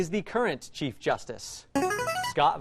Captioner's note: player buzzer